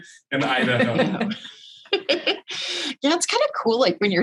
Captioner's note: chuckling